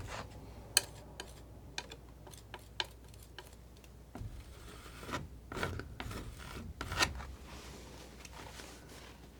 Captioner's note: scratching